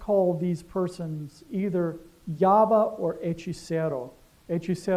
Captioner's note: spanish